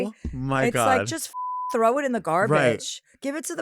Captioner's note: beep